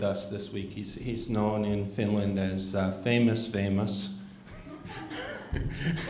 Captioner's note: laughter